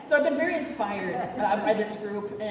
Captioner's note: none